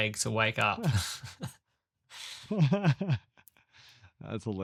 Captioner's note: laughs